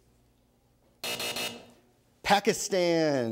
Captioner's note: buzzer